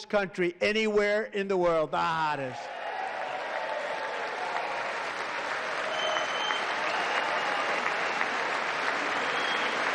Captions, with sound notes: A short time ago, we were a dead country. Now we are the hottest country anywhere in the world. The hottest. [Applause]